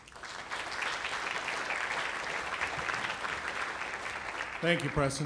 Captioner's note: applause